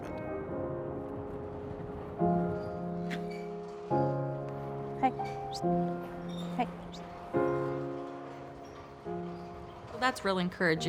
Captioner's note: windmill creaking